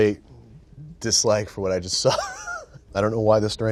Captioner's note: laughs